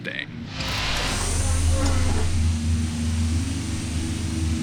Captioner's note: mechanical hissing